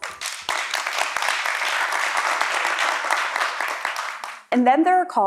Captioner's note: applause